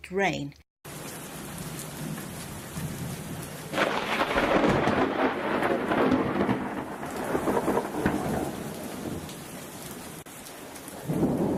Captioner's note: rain with thunder and lightning